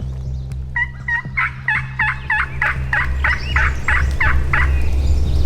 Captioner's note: turkey call clucking